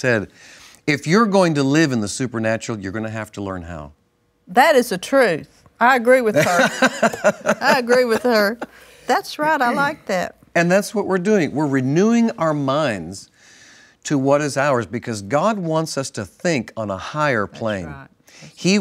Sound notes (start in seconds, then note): 6.4 laughs